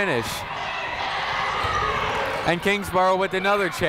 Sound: people shouting in the crowd

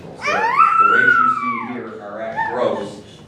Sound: baby talking near mic

